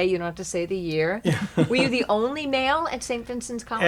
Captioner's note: laughing